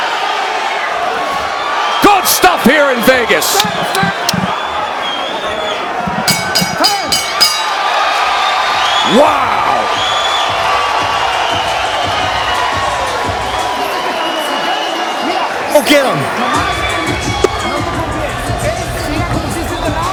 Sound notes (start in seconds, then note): 6.2 bell rings; 9.6 cheering